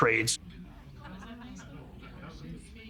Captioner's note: family chattering